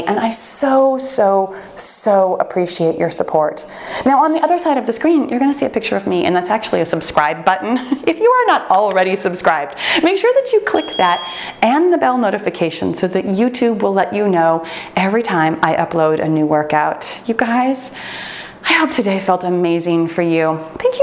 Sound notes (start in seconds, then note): 10.8 bell chimes